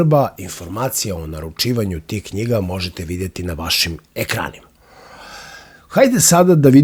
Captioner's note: sigh